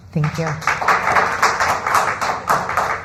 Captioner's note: applause